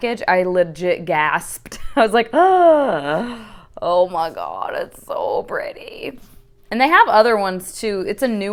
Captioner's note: sharp intake of breath